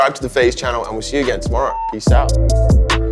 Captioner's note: beeping; calm drum music